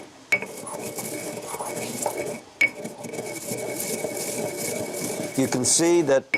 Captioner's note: grinding